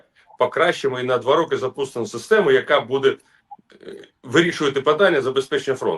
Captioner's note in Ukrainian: прочищення горла